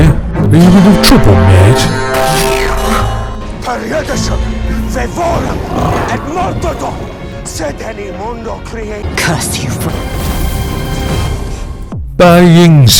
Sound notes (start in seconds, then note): 3.7 Constantine speaks a spell